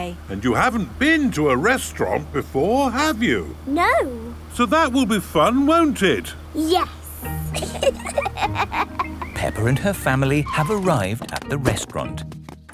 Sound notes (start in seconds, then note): 7.5 both laughing